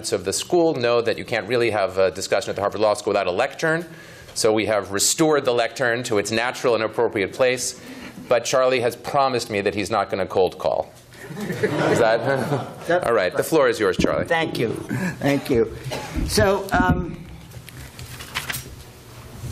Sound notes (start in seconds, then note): 11.2 laughter